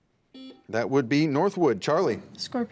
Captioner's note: buzzer beeps